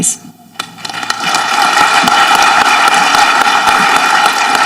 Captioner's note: audience clapping